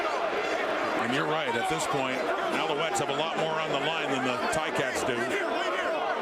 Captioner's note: crowd Noise